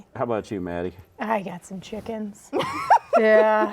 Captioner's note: laughing